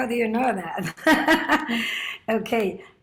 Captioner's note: laughs